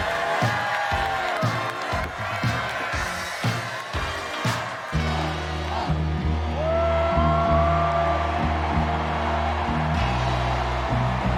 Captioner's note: cheers and applause